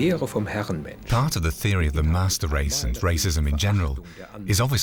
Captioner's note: speaking german